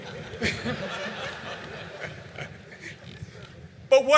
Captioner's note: laughter